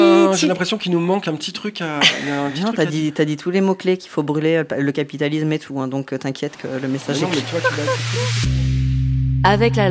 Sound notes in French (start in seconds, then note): 7.2 rires